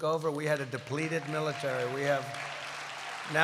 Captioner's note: applause